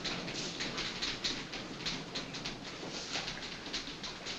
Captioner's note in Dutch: typewriters klepperen